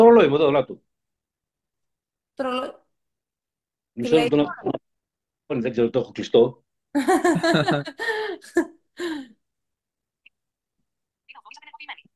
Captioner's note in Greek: γέλια